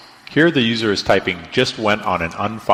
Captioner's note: voiceover